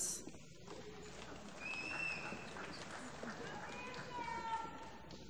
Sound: applause

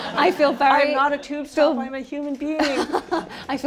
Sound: laughter

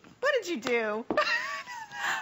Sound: laughter

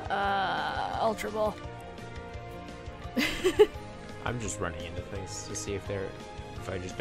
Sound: laughs

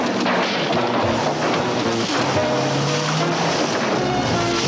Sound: loud crashing

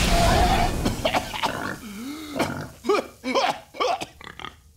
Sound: coughing

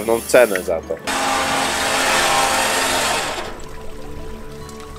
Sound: diver lift running

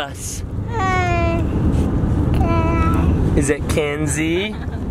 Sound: babbles

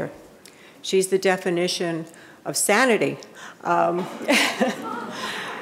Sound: laughs; audience laughing

